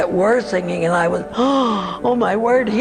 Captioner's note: gasp